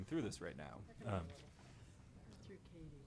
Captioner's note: speaking faintly